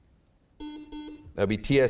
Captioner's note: beeping